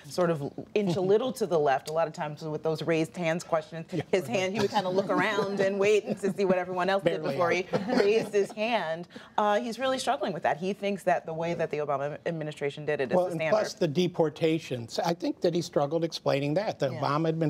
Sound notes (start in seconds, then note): 8.6 laughter